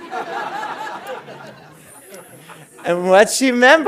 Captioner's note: audience laughing